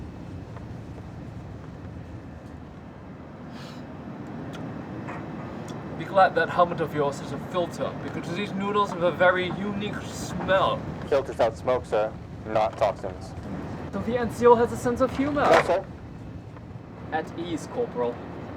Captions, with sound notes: *gags* Be glad that helmet of yours has a filter, because these noodles have a very unique smell. It filters out smoke, sir, not toxins. So the NCO has a sense of humor! No sir. At ease, Corporal.